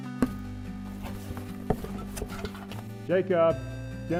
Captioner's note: rustling of cardboard box